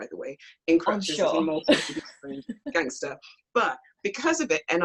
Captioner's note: laughs